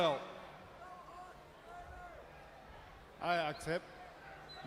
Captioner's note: crowd chatter